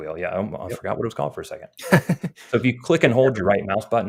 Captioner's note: chuckles